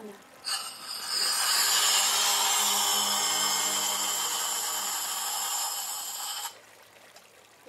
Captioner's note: sound of condom inflating